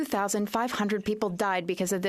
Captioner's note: speaking French